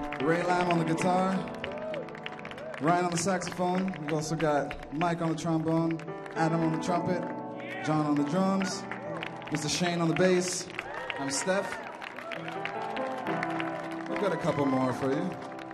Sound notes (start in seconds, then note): 10.5 audience cheering